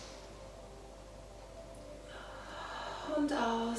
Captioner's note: exhaling